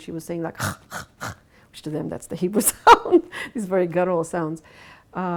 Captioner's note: laughs